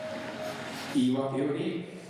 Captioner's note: speaking foreign language